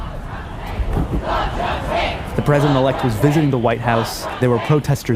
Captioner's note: crowd chanting